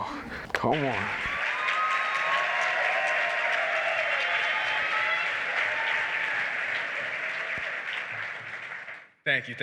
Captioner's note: applause